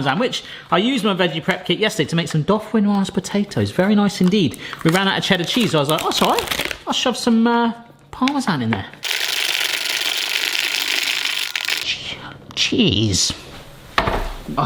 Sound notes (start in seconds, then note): 9.1 sped-up scraping